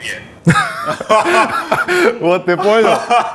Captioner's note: laugh; Dud laughs